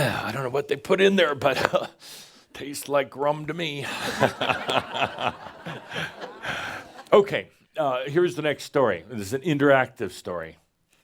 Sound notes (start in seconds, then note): 3.8 laughter